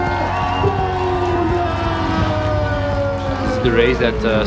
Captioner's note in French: applaudissements